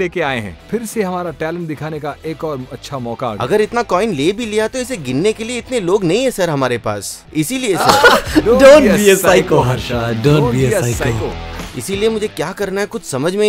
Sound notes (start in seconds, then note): 7.7 laughs